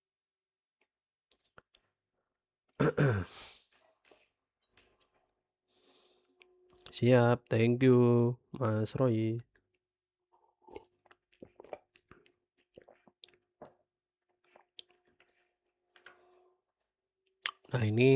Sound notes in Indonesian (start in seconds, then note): 2.7 batuk; 2.8 berdehem